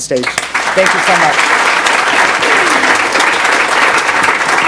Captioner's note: audience applauds